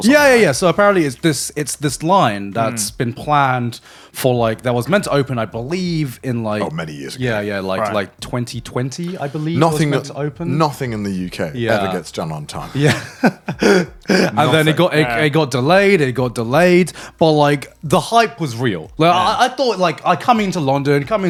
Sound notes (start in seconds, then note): 12.5 chuckles